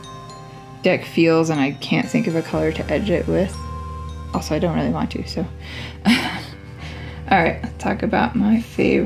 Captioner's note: laugh